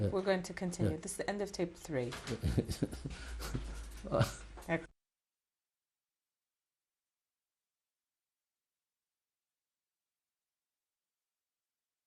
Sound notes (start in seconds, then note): 2.3 laughs